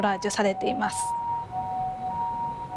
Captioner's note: siren